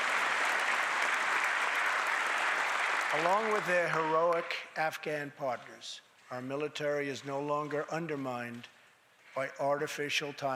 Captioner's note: applause